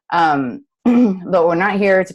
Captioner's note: clears throat